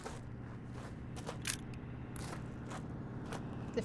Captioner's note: camera clicks